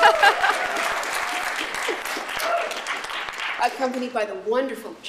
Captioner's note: applause